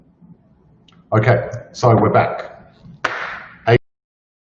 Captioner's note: hands clap